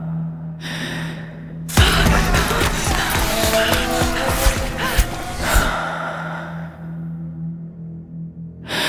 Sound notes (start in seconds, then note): 2.5 clamor and whizzing of arrows; 5.2 loud breathing